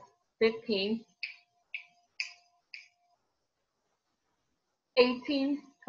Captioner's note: fingers snapping